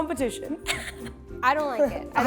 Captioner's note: laughs